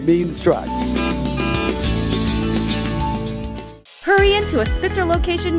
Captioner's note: horn honking